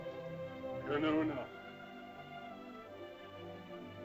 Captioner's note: soft music; Loana's father speaks in caveman language; soft music